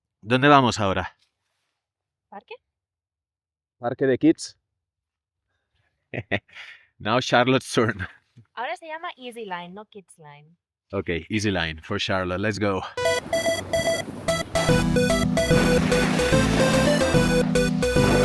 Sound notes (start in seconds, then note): 8.4 in spanish